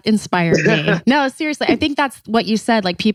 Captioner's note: laughs